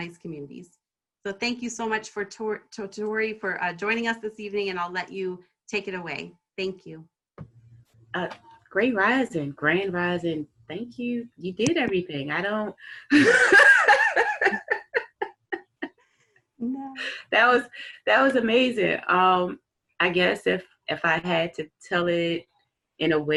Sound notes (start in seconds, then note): 13.0 laughter